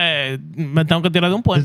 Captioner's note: speaking Spanish